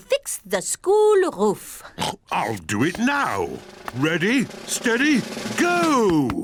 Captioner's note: oinks